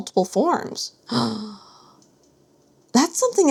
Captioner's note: gasp!